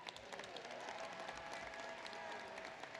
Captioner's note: applause